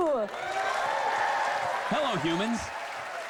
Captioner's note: cheers and applause